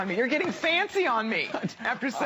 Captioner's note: laughter